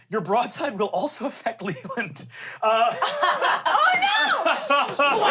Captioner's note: laughs